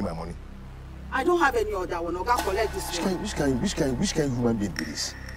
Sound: foreign language

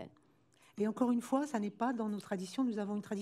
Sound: speaking french

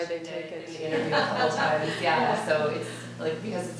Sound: laughing

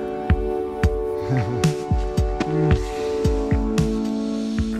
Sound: chuckles

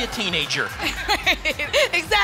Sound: laughs

